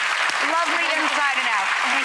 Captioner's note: audience applauds